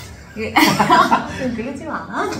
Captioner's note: laughing